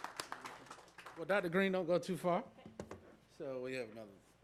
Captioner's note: applause